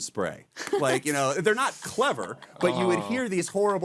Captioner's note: laughing